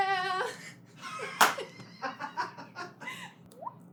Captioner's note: all the background giggling